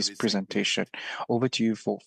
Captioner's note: speaking in French